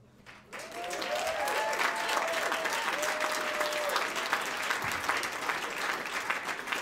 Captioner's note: audience applauds; audience cheers